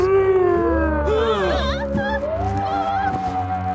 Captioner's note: groaning; frightened gasps